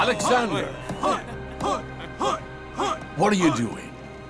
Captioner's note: cheering